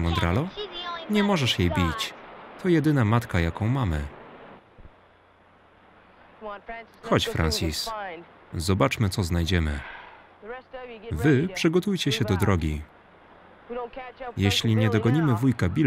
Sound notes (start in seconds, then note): 9.8 sighs